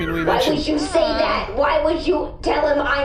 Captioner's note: stressed